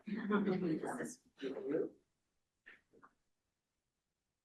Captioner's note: quiet chatter